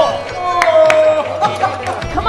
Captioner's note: laughing